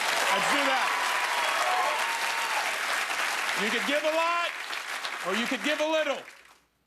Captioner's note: cheers and applause